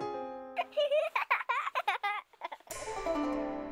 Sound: sound of a child giggling

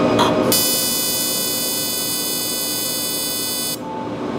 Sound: laser firing

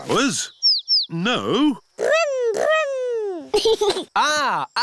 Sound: giggles

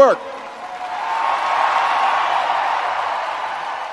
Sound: audience cheering

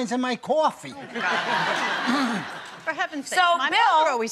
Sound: laughter

